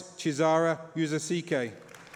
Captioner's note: applause